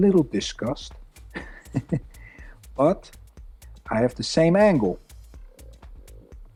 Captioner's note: chuckles